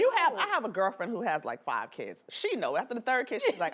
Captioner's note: laughter